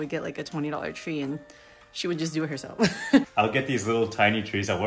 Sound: girlfriend laughs

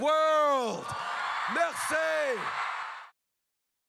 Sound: crowd cheers

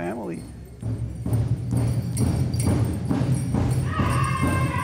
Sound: bells jingling; drums banging; woman chanting

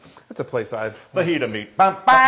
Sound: laugh

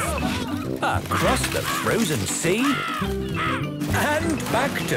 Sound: birds cawing

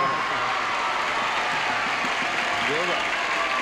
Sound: applause and cheering

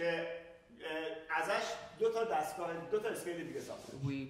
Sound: speaking in farsi

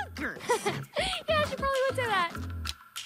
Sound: chuckles

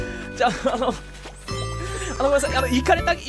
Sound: inhales; inhales

